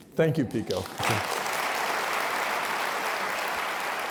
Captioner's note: applause